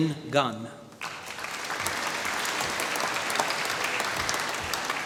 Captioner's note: applause